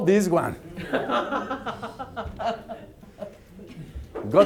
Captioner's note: laughter